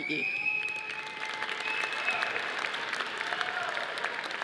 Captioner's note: audience applauding